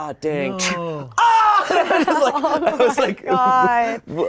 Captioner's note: Shayne screaming